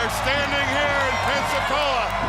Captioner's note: crowd cheering